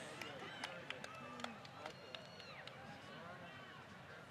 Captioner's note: applause